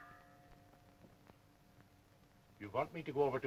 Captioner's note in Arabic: رنين الجرس